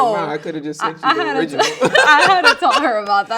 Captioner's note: laughing